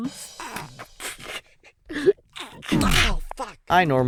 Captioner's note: laughs